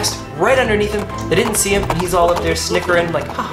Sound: horses galloping

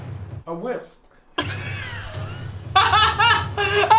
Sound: both laugh

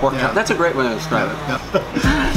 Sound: laughs

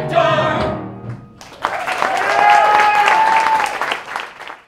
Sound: applause

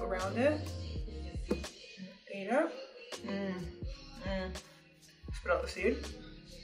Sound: delighted moan

